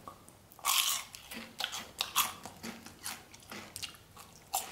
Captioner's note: Crunchy sounds